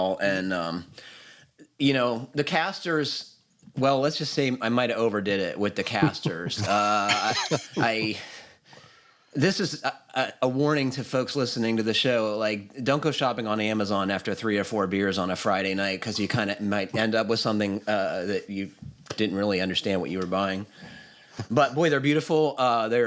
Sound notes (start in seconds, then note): 5.8 laughter